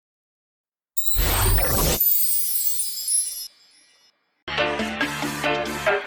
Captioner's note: machinery whirring; upbeat music